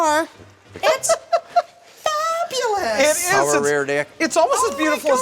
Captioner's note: laughter